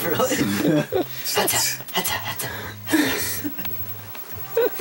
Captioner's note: mimicking Fox's airdodge